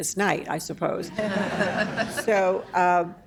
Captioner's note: laughter